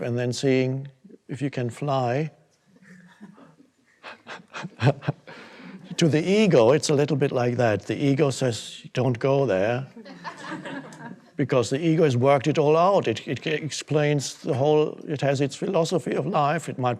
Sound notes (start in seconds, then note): 3.9 audience chuckles; 4.0 Eckhart laughs; 10.0 audience laughing